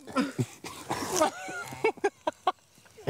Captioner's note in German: Sie lachen